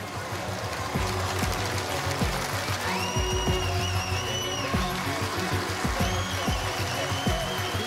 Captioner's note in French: applaudissements